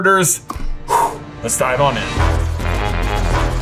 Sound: blows; imperious music

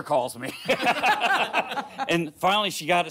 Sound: laughter

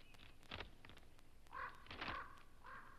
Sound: bird caws

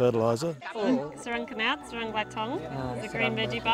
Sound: speaks local language

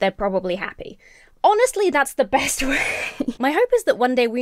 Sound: laughs in exasperation

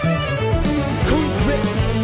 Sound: none

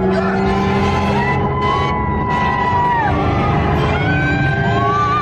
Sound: shouting and cheering

